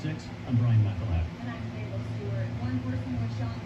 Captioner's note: on TV